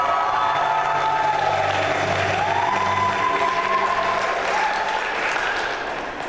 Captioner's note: applause